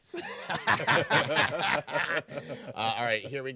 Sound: group laughing

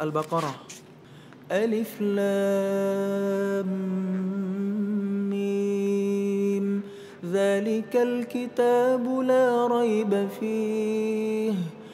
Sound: recites quran

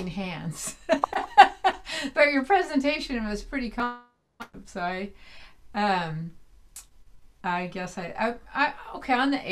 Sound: laughs

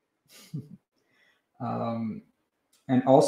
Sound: chuckles

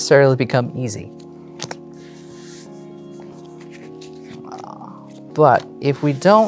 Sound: cards slapping and sliding

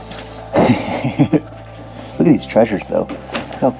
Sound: laughing

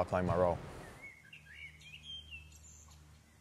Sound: birds chirping

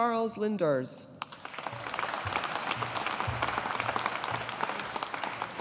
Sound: audience applauding

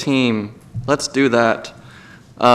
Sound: IWlGAVEL BANGS

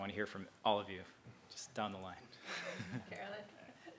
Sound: laugh

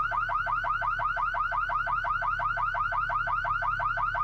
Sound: car alarm blaring

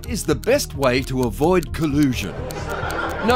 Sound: excited chatter

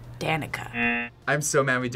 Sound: buzzer rings

